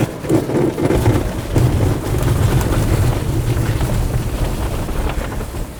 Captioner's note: aircraft whirring